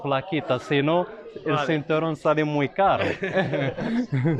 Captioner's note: laughs